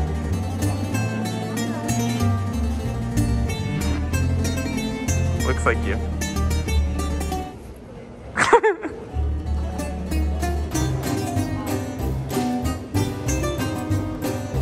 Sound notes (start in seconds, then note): 8.4 laughs; 10.5 bright music continues